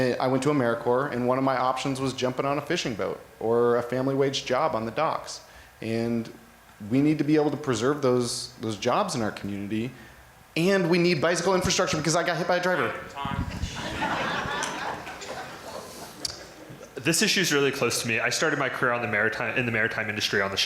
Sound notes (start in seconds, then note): 13.5 crowd Laughter